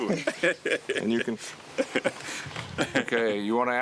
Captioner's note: speaking in Swahili